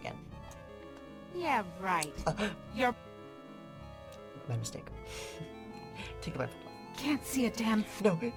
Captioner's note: gasps